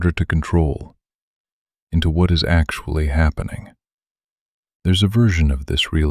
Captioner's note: pause